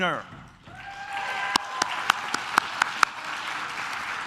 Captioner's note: claps